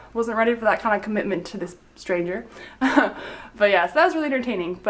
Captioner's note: chuckling